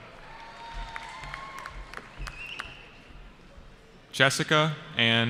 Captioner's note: cheering